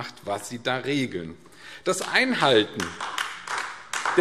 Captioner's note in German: Beifall AfD